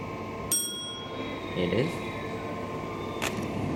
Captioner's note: elevator bell